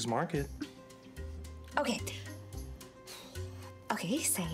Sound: sighs

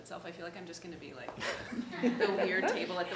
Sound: all laughing

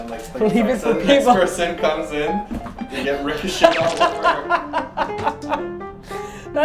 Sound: laughing

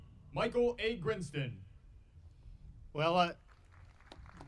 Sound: audience applauding

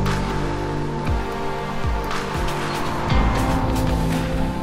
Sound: engine roars

